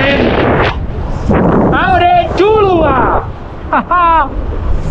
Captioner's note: speaking elvish